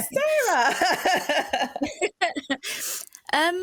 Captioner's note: laughter